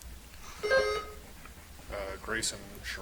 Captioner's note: buzzer chimes